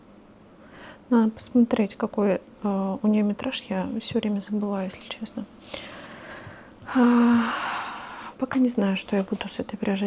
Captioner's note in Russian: вздыхает